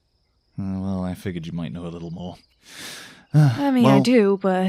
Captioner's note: sighs